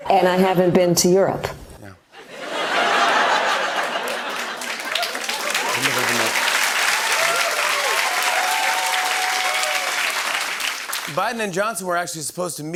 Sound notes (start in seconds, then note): 2.2 laughter; 7.3 cheers and applause